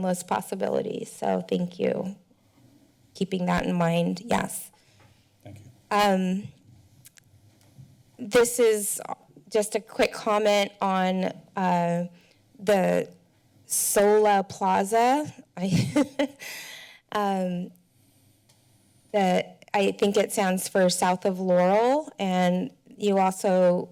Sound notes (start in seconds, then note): 15.9 laughs